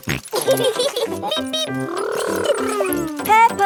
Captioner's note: both laughing